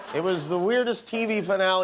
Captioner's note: laughter